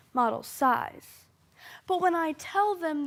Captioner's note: soft breathing